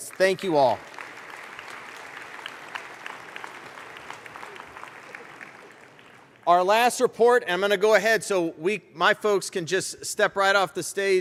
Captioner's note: applause